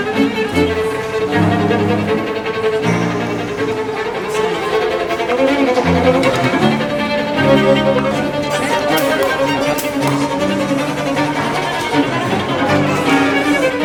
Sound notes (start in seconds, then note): 0.1 frantic string music; 9.0 bottle caps popping; 10.4 frantic string music